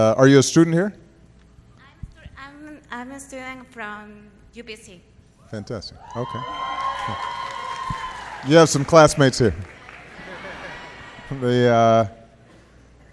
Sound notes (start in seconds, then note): 6.4 applause